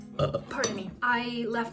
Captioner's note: burps